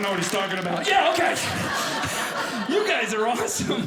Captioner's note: audience laughing